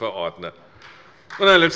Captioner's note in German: Beifall bei der CDU